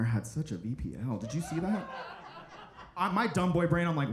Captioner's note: audience laughing